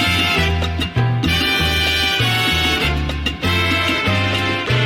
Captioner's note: applause